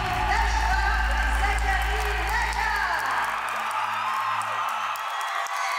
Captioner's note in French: applaudissements